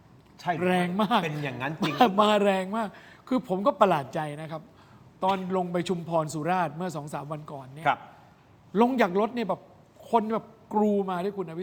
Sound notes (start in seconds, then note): 1.3 laughs